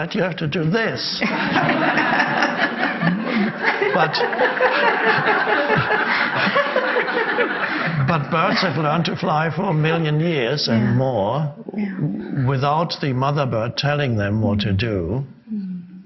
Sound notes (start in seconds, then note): 1.3 audience laughs; 5.2 man and woman laughs